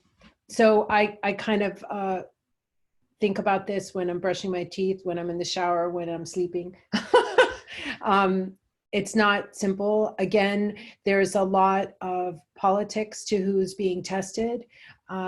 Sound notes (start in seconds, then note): 7.0 chuckles